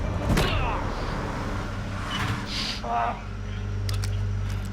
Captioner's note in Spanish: Ruido del vehículo